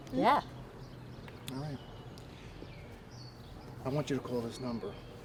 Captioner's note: canto de pájaros